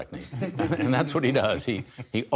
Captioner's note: laughter